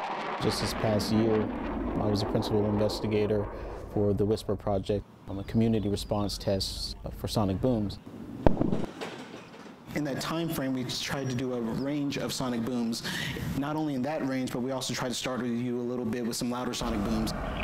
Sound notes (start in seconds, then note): 8.4 sound of sonic boom